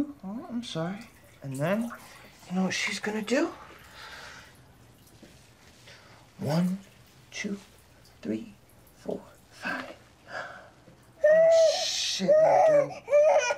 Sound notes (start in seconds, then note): 12.1 baby crying